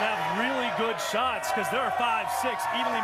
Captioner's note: cheers and applause